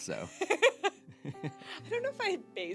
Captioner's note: laughter